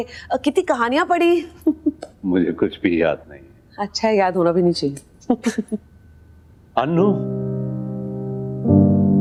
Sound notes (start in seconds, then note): 5.3 chuckling